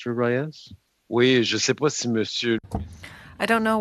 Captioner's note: speaking French